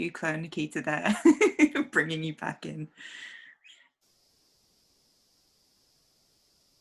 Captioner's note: laughs